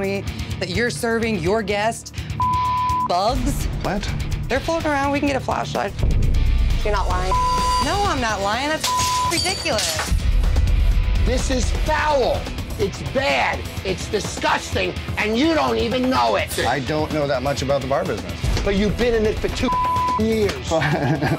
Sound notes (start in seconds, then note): 2.4 beep; 7.0 beep; 9.7 beep; 10.7 intense music; 19.6 beep